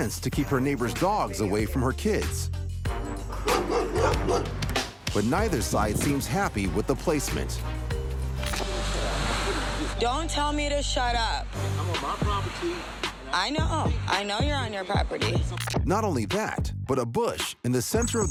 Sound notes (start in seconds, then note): 3.3 dogs barking